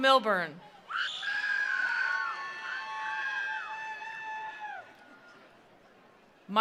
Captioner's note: attendees applauding; attendees cheering